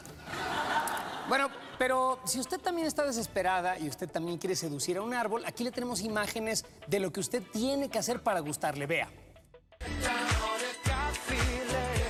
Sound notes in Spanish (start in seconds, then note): 0.2 risas